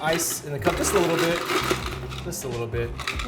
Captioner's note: ice rattles